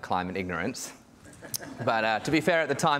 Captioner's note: audience laughing